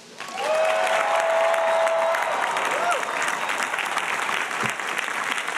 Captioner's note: audience cheering and applauding